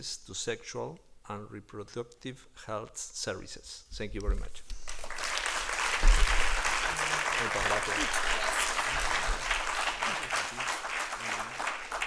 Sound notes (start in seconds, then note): 4.8 applause